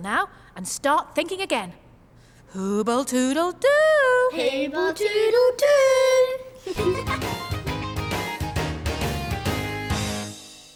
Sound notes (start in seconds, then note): 6.6 kids laugh; 6.8 upbeat music